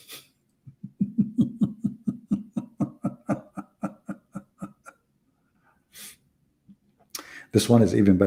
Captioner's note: Ketawa